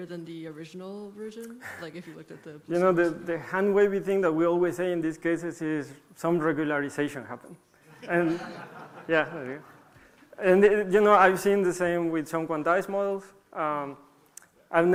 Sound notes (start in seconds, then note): 7.8 laughter